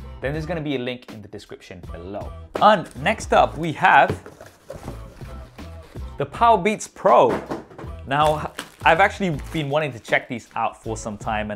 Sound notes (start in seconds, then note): 7.2 box clattering; 8.2 plastic crinkling